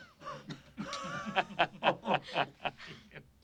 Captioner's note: laughing